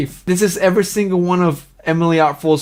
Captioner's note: none